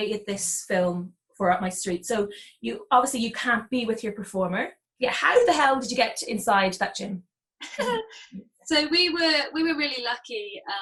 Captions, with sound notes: this film for Up My Street, so obviously you can't be with your performer. How the hell did you get inside that gym? (laughing) - So we were really lucky